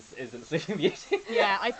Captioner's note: laughs